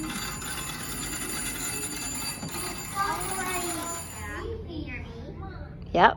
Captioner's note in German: Telefon klingelt weiter